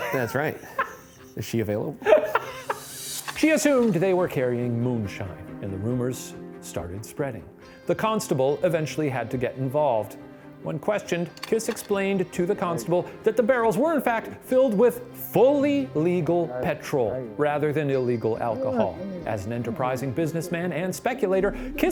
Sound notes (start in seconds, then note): 2.0 laughing; 2.2 suspenseful music